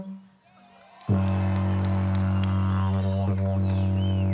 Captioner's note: cheering